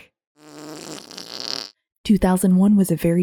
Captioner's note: fart noise